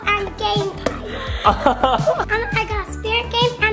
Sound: dad laughs

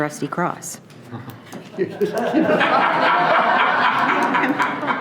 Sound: loud laughing

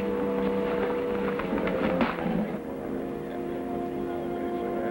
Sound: wagon creaks

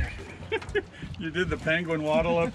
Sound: chuckling; groaning

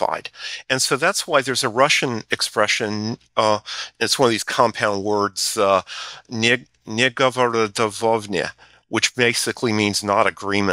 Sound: Russian

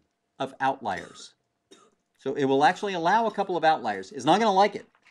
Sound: cough

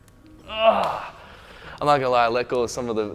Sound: grunts

